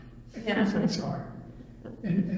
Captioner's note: laughs